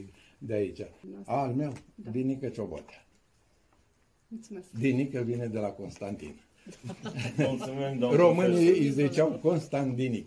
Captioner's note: laughter